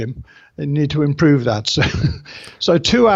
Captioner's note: laughs